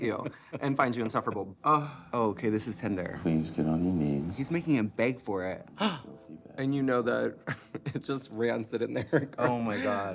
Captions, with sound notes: and find you insufferable. Ugh. Okay, this is tender. Please, get on your knees... He's making him beg for it. (GASPS) And you know that it's just rancid in there. Oh, my God.